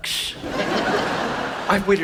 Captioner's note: audience laughs